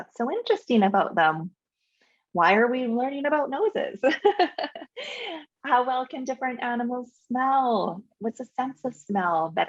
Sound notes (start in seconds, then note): 4.2 laughs